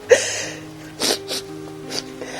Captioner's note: sobs